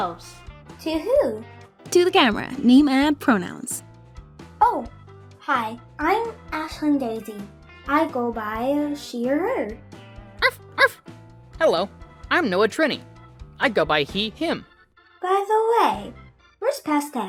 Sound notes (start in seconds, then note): 10.4 arf